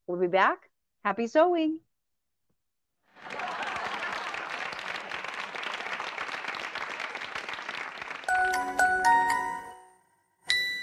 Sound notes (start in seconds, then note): 6.0 applause